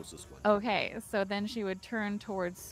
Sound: insect buzzing

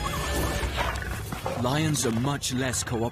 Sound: lions growl

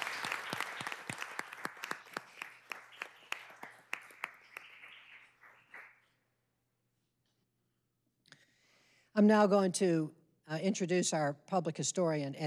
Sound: applause

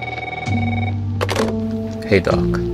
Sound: house Phone Ring; phone Pickup

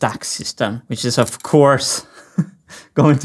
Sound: chuckles

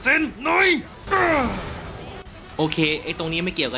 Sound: aggressive vocal expressions

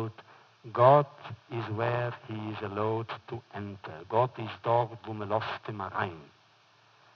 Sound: foreign language

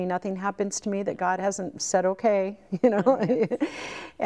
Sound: laughs

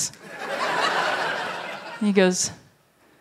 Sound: laughter

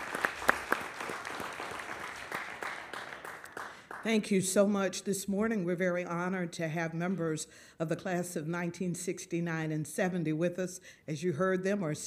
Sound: applause

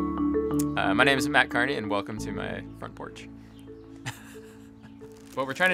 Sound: laughs

